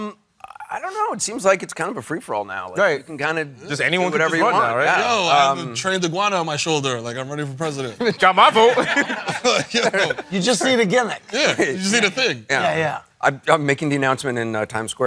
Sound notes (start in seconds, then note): 8.0 chuckles